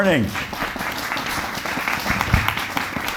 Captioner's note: audience Applauding